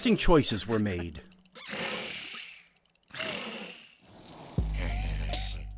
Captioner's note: Loud snoring from Woodstock